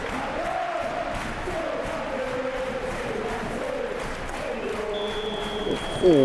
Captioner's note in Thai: ปรบมือ